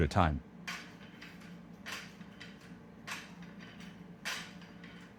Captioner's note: weights clanking